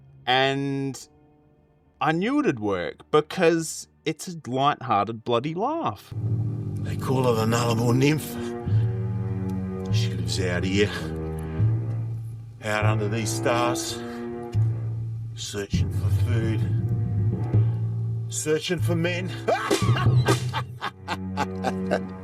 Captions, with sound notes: And I knew it would work because it's a lighthearted bloody laugh. They call her The Nullable Nymph. She comes out of here, out under these stars, searching for food, searching for men. (LAUGHS)